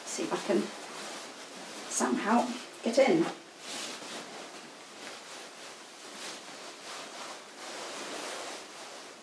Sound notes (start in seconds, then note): 3.7 gown rustling